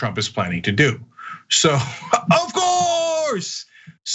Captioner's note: laugh